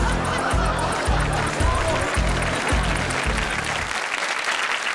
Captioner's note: audience applauds